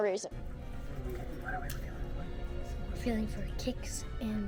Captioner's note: whispers